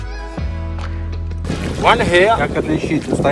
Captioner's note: english conversation